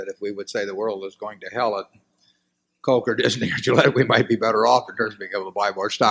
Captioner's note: laughs